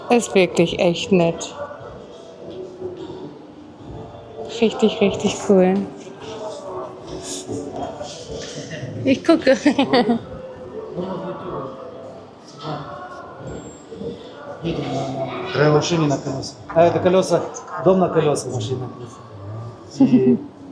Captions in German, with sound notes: Ist wirklich echt nett. Richtig richtig cool. Ich gucke [gelächter]